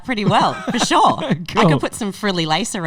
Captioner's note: laughing